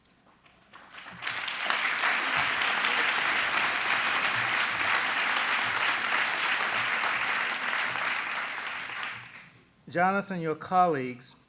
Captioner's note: applause